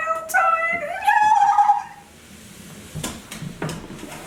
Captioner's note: giggling